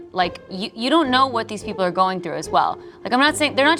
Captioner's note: none